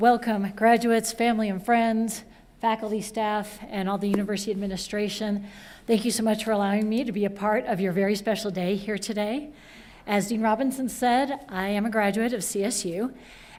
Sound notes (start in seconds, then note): none